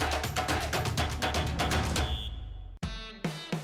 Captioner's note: whistle shrills; upbeat music continues